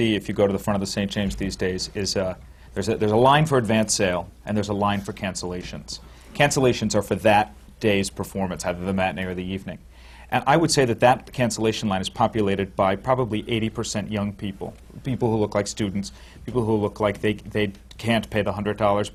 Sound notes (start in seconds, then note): none